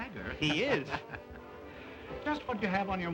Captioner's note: men laugh